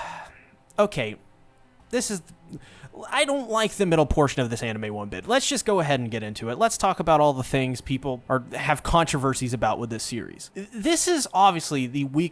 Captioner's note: sigh